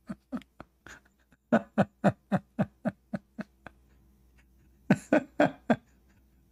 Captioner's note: Ketawa